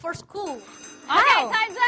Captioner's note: buzzer rings